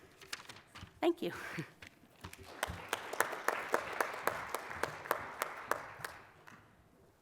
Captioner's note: applause